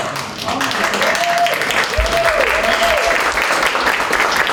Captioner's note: applause